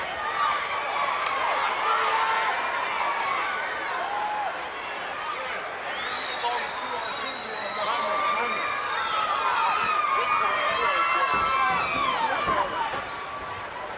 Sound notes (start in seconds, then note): 8.5 fans shouting